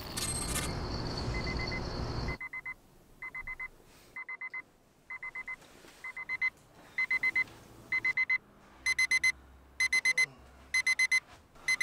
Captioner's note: alarm clock